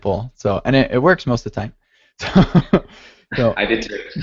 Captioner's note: laughs